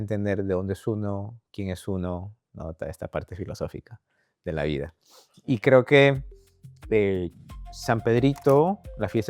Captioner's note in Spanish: resoplido